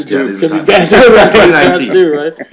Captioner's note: laughter